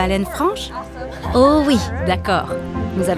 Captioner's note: laughs